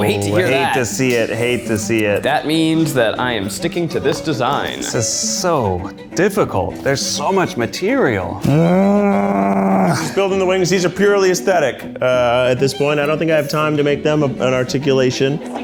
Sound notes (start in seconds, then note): 8.4 groans